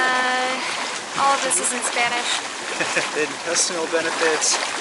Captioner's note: giggles